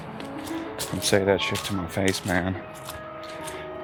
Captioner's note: Ludlow mumbles to himself